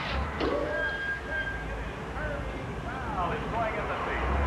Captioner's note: hydraulics hissing